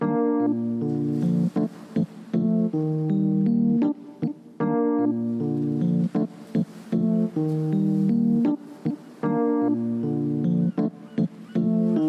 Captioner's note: sounds of the ocean and distant seagulls